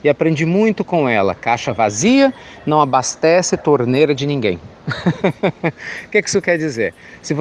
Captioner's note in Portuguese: Risos